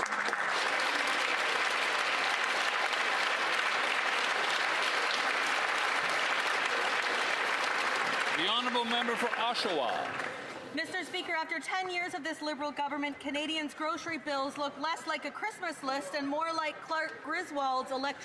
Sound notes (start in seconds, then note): 8.6 applause